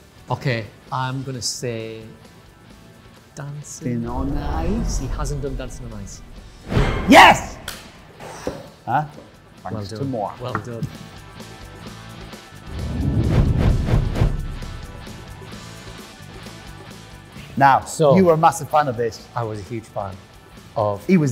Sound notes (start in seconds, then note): 11.2 upbeat rock music; 12.7 whooshing